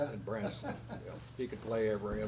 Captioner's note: laughs